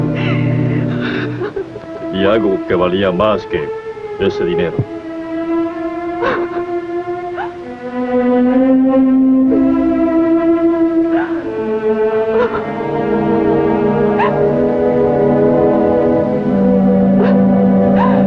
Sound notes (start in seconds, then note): 8.7 sobbing